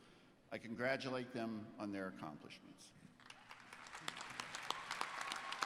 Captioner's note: applause